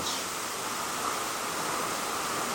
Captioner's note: water running